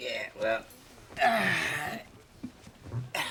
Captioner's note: sighs